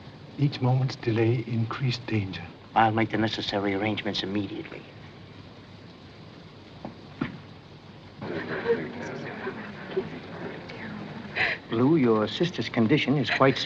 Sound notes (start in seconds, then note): 8.2 chattering; 8.2 sobbing